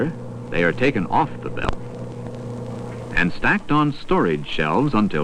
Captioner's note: truck motor humming